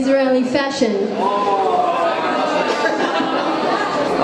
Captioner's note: crowd Ooo's